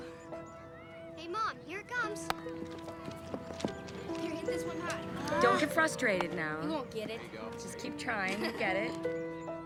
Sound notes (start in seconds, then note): 4.9 sighs